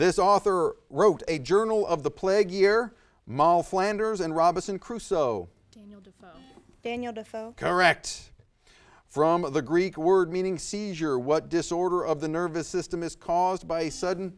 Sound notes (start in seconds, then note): 6.4 buzzer buzzes